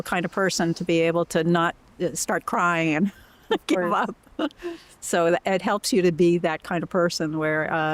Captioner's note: laughter